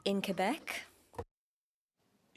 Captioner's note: speaking French